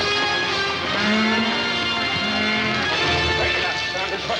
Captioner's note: cows mooing